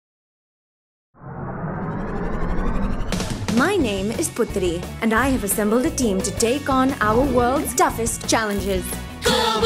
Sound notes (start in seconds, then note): 1.2 engine whirring